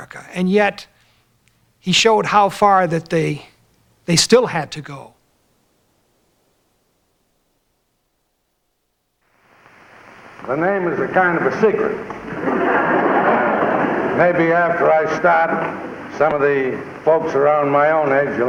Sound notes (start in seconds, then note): 12.2 laughter